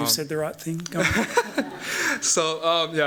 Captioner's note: laughs